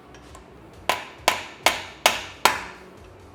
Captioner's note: hammering sound